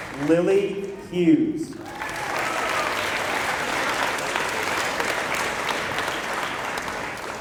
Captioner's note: applause